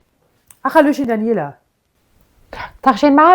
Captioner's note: both talk in Berlin dialect to each other